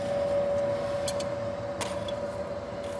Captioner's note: machine noise